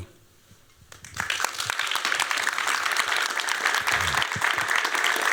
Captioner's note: applause